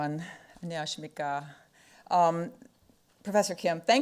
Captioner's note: speaking foreign language